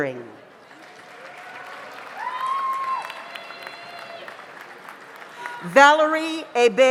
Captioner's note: audience applauds; audience cheers